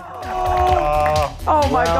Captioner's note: clapping